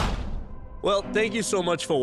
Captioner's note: whoosh